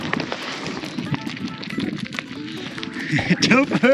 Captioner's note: goats munching